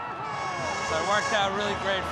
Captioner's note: horns blaring